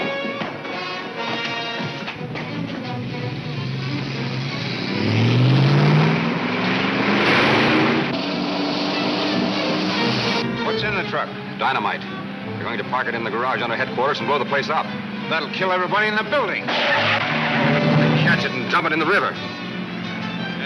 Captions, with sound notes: (dramatic orchestra music) (engine revving) - What's in the truck? - Dynamite. They're going to park it in the garage on the headquarters and blow the place up. - That'll kill everybody in that building. (tires squealing) - Catch it and dump it in the river. - Yeah, if there's time.